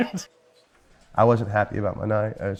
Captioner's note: laughs